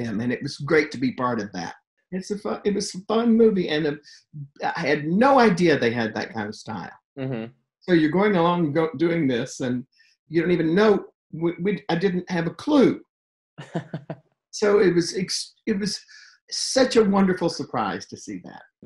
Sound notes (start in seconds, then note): 13.6 laughs